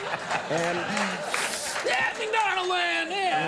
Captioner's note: Conan laughing; audience laughing; Conan inhales